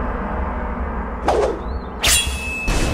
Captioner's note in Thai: เสียงกระบี่